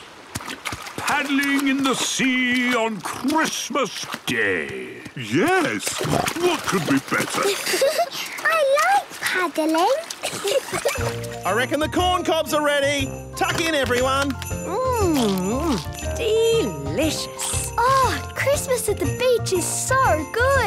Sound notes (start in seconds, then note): 5.1 snorting; 10.2 giggling